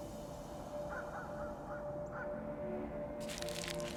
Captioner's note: dog barking